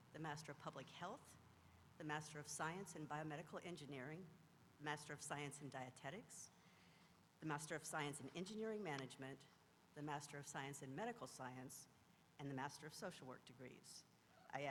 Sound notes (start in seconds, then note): none